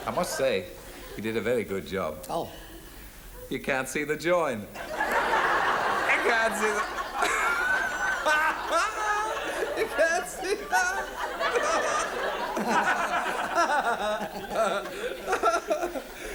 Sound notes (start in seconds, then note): 0.0 audience laughs; 5.2 audience laughs; 9.2 laughs; 11.9 laughs; 12.8 all laugh